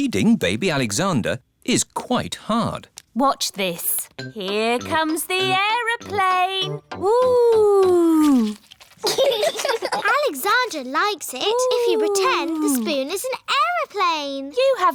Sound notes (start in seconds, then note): 9.0 laughter